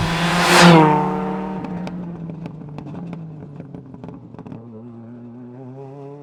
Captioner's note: engine rasping; engine popping